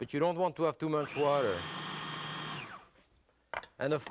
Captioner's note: food processor whirring